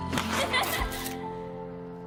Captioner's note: laughter